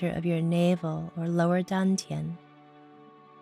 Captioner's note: speaking in foreign language